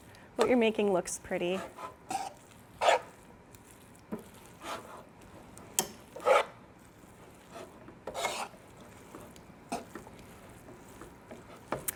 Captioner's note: tongs scraping in pan